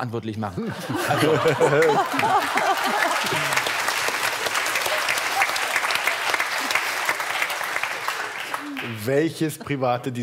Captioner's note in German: Lachen; Applaus